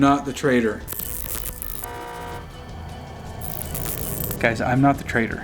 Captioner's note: digital buzzing and horn honking